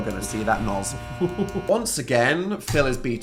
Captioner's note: light buzzing; Phil laughing